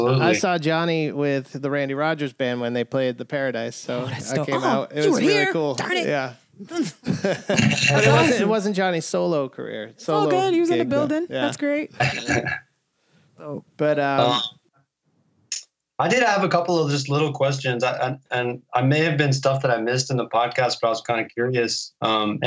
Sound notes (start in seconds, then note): 12.3 laughter